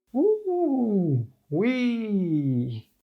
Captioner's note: wheeeeeeeeeeeeeeeeee